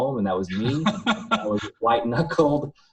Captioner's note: laughing